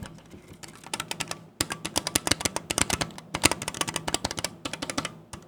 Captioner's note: keyboard clicking